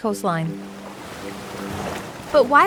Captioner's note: water splashing